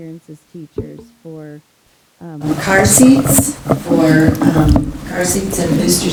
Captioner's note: loud microphone jostling